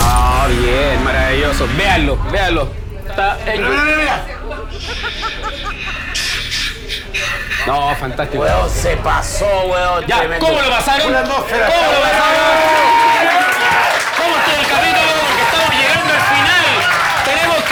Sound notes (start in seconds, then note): 13.4 cheers